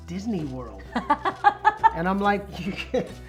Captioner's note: laughing